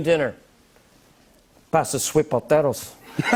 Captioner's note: Imitating Tony Montana; laughter